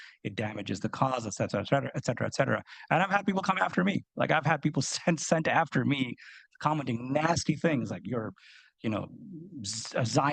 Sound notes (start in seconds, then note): none